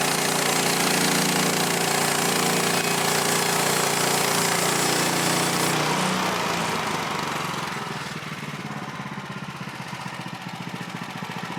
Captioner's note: motor running